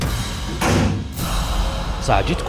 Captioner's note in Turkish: Kapı kapanma sesi